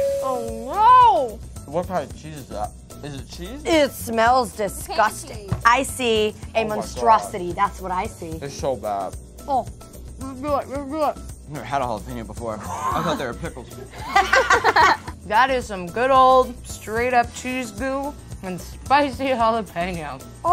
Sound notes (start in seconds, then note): 12.6 laughing